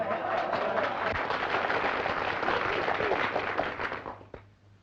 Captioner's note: audience applauding